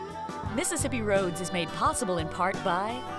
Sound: voiceover

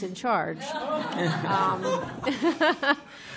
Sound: laughter

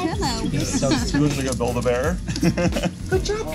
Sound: laughs

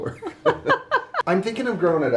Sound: both laugh

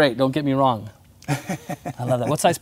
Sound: laugh

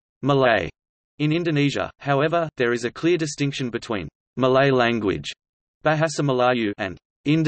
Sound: bahasa Melayu

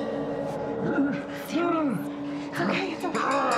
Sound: Sammy grunts

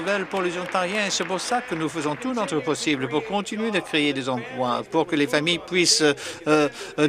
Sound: some Applause

